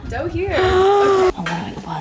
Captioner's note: gasping